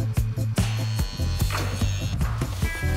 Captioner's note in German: Türöffner surrt